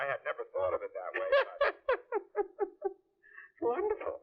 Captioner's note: laughter